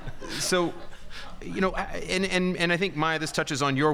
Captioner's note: audience laughing